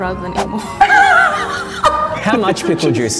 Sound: laughing

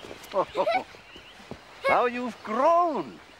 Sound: giggling

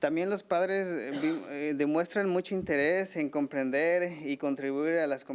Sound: man speaking foreign language

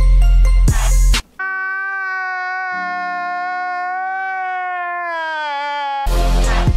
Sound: cri intensifies

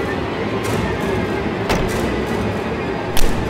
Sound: door slams

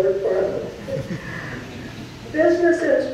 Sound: audience chuckles

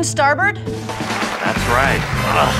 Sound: clapping

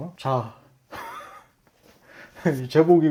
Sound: laughing

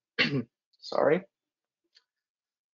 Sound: coughs

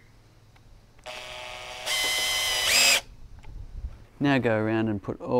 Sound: electric drilling noise

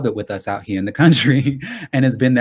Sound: laughs

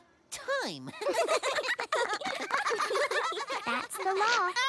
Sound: care bears laugh

